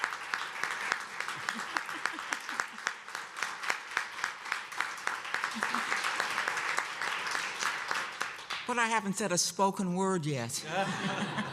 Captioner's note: applause